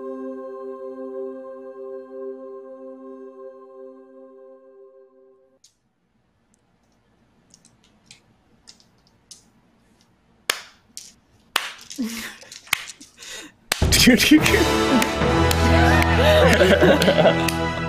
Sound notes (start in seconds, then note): 11.5 clapping